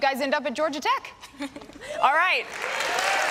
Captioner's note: applause and cheering